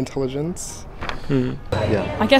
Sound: murmurs agreement

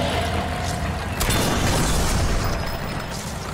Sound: propane canister exploding

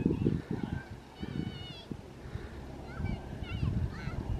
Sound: kids chattering

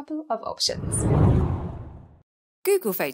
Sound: air whooshes

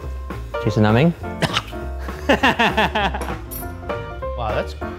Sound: laughing

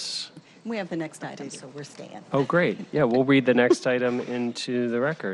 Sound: laughter

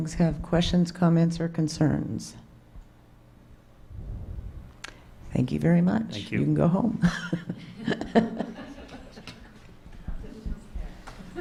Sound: laughter

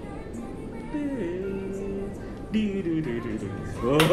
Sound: imitating bass sounds

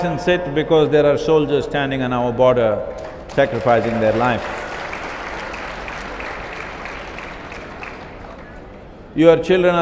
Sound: applause

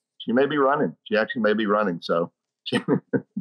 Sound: laughing

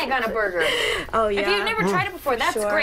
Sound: mumbling

